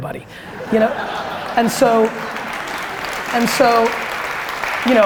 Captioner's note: laughter and applause